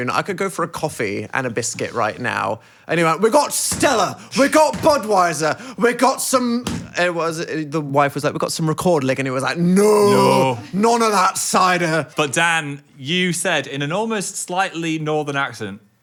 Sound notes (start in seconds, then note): none